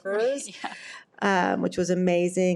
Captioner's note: laughs